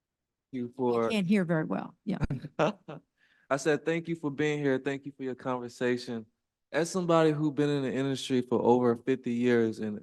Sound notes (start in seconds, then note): 2.4 laughs